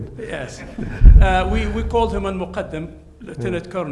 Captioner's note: Hisham chuckles; speaks in foreign language